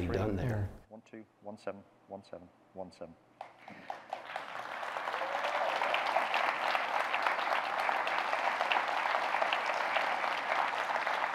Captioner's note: audience clapping